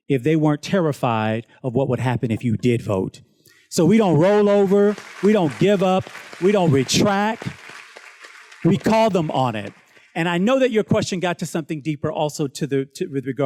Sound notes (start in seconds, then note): 7.4 students claps